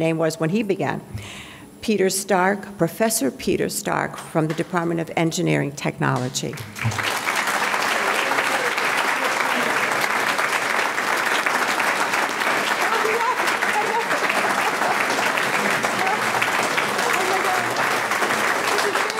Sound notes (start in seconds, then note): 6.4 audience clapping